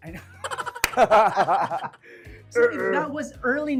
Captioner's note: both chuckling